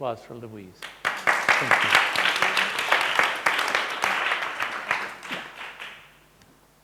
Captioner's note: audience applauding